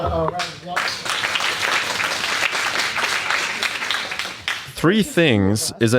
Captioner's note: audience applauding